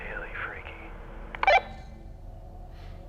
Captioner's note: walkie-talkie blips